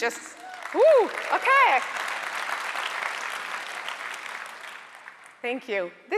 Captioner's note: audience applauding